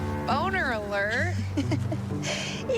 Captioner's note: giggling